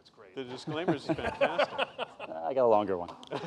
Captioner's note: laughter